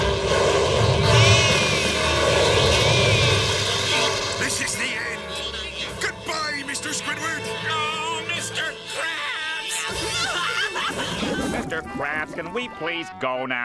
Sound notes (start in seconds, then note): 9.4 crying